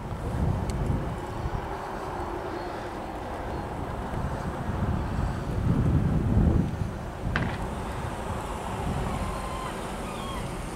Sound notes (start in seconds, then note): 0.0 traffic noise; 0.1 seagull; 5.1 wind noise